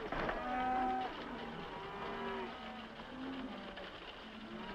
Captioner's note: horse hooves clopping; cows mooing; horse hooves clopping